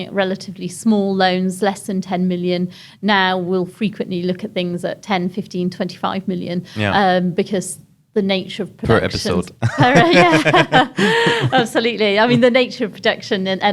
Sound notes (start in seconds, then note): 9.6 laughs